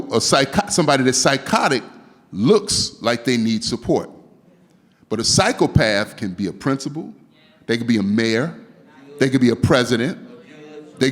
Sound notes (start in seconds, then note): none